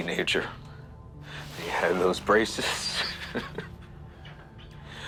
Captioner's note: laughs